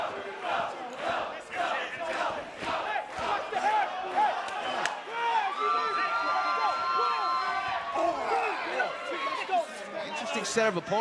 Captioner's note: fans chanting